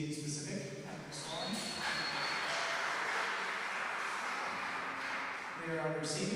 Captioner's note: applause